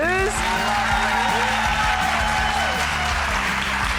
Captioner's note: crowd clapping